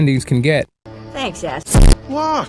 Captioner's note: glitch